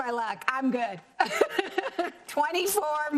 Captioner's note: laughs